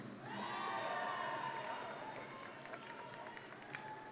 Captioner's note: audience cheering